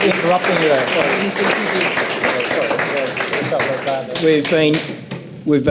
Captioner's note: audience continues applauding